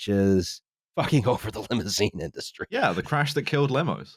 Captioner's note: laughing